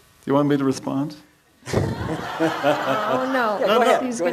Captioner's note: audience laughs